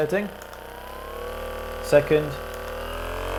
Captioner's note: massage gun whirring